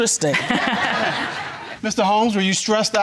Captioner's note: all laughing